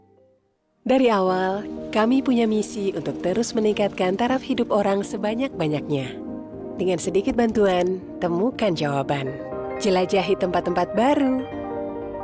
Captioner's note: speaking indonesian